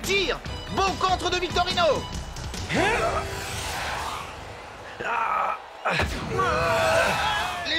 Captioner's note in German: beifall